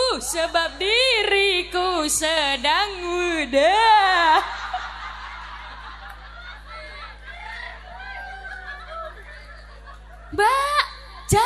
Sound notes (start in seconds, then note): 4.3 laughs